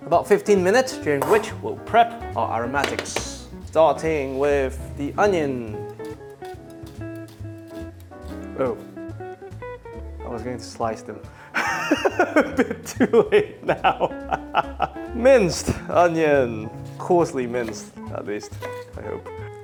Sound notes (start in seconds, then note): 11.5 laughing